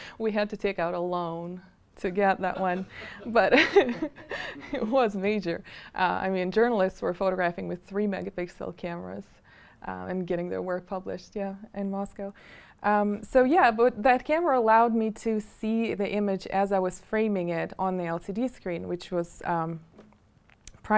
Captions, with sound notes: We had to take out a loan to get that one. But (chuckling) it was major. I mean journalists were photographing with three megapixel cameras and getting their work published in Moscow. So that camera allowed me to see the image as I was framing it on the LCD screen, which was priceless.